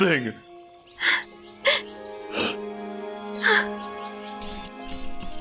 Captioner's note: sobbing